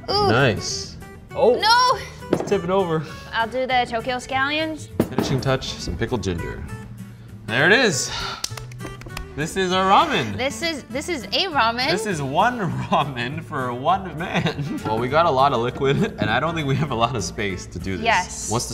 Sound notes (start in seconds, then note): 8.4 claps